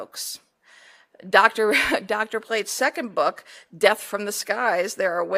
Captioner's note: laugh